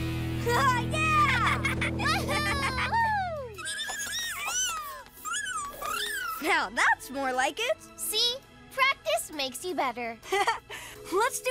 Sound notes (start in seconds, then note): 1.2 laughing; 3.6 squeaking; 10.3 laughing